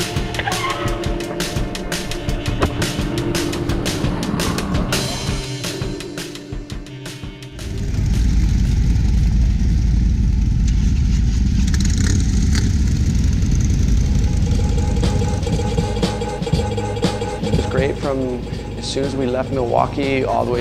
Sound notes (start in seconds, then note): 8.0 engines revving; 16.8 upbeat music